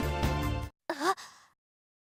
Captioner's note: gasp